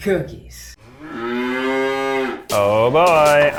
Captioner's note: cow moos